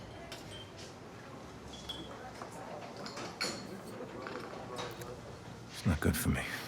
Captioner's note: dishes clattering; glasses clinking